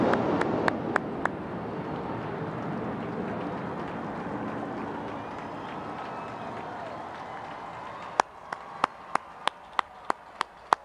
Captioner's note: cheering